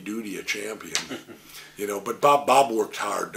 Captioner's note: interviewer chuckles